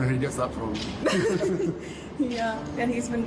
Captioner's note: Harry and Meghan giggle